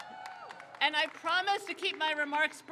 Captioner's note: crowd cheers